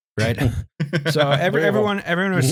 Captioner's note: laughter